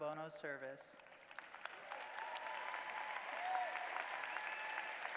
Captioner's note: applause